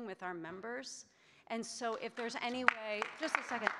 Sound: audience clapping

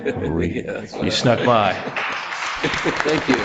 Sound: audience applauds

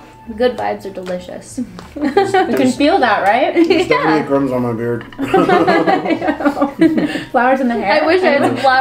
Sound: laugh

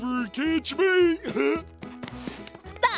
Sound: laughing; chuckles

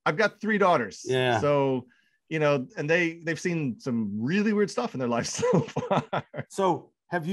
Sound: laughs

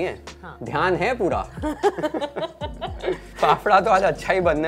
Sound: laughs

